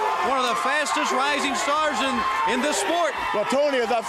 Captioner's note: crowd chatter